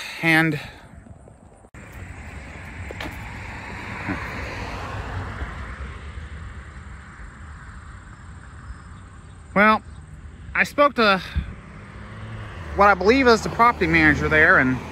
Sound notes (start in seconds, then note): 0.9 Traffic on Paulding Road